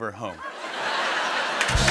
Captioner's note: laughter